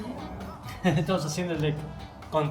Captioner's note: chuckles